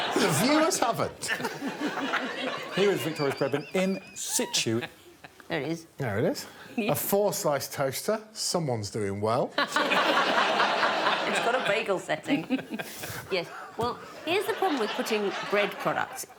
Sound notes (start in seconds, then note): 9.6 audience laughing